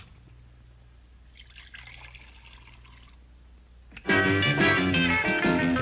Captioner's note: liquid splashing softly